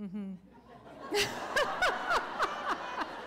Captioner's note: laughter